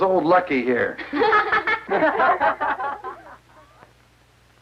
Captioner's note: laughter